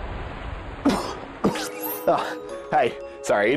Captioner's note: coughs